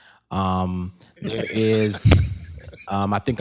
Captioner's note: laughter